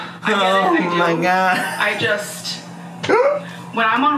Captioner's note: laughs